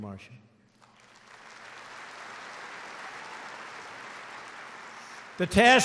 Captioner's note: applause